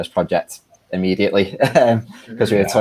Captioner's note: laughing